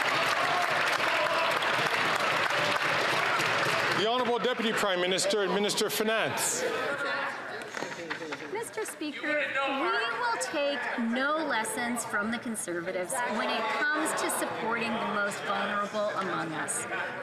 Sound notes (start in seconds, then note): 2.6 some Applause